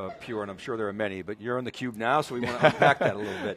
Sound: laughing

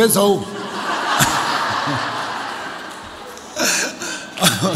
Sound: audience laughs

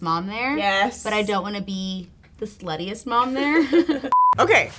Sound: laughing

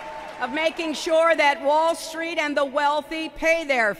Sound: applause

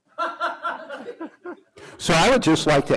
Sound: laughter

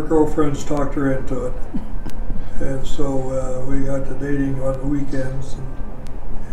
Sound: quietly laughing

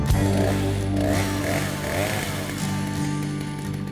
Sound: machinery noise

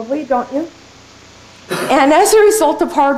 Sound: cough

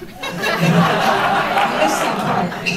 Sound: laughter

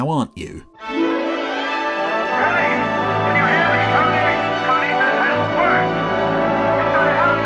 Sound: triumphant music; Simmonds yelling

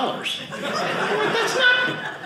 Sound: audience laughing

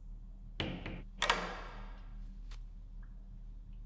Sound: lock clicks

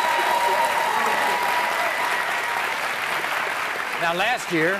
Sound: audience applauds

